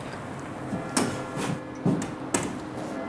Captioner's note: church bells